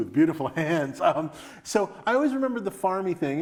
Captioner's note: laughs